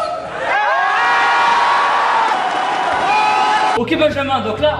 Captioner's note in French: cris, applaudissements